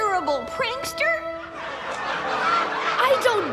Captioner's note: audience laughs